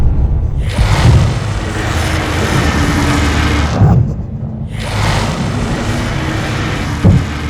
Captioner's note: dragons growl; dragons roar